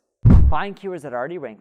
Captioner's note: air whooshing